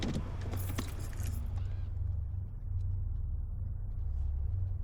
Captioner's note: keys jangling